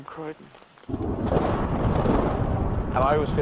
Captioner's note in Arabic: تصفيق الرعد